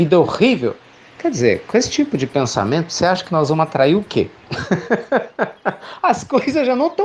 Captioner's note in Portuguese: Risos